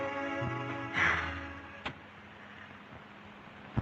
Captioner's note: sighing